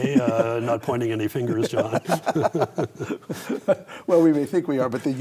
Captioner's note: both laugh